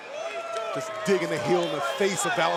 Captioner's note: crowd boos